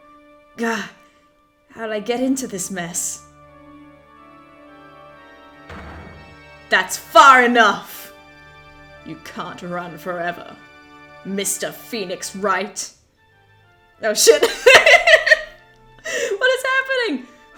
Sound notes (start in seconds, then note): 5.7 gavel slams; 14.6 laughs